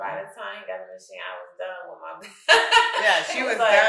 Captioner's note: laughing